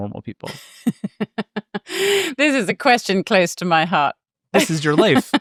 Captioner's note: laughs